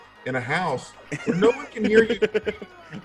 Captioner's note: laugh